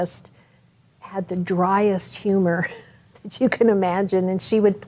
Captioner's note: chuckles